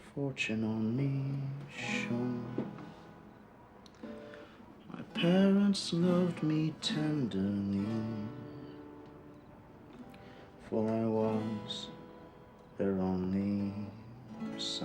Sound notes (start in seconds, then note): none